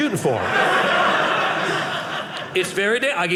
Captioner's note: audience laughing